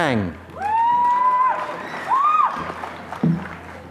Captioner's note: applause